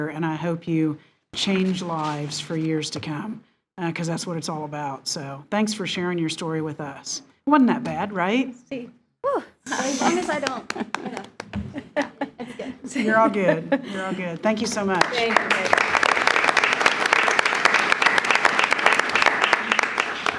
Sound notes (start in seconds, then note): 9.6 trustees laughing; 16.4 attendees applauding